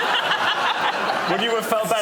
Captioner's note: laughter